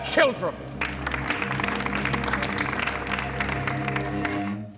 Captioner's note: crowd claps